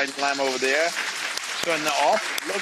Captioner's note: audience applauds